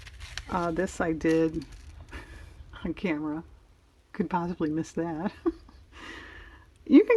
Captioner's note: laughs